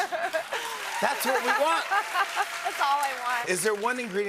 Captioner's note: cheers and applause